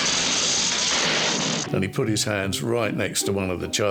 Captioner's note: sparking and crashing